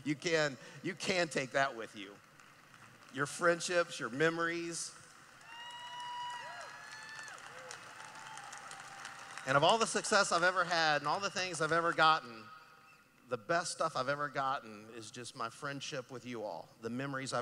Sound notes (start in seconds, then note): 2.0 clapping; 5.3 cheering